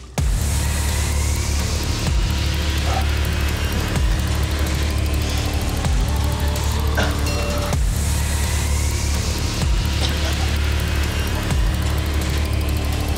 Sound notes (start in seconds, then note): 0.2 music intensifies; 2.9 coughs; 6.9 coughs; 9.9 chokes